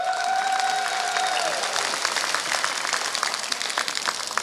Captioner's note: applause